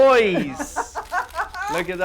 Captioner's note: laughs